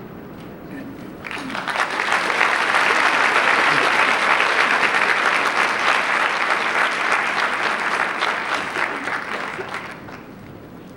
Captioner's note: applause